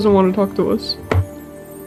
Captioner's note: dramatic angsty table bang